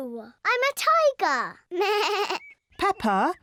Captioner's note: bleats